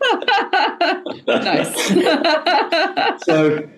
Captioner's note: laughing